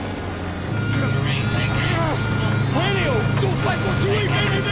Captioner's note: airplane engine roaring; chattering